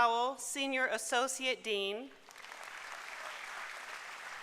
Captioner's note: applause